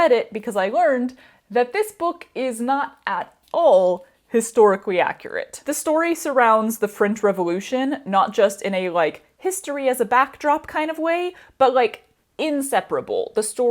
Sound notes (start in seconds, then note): none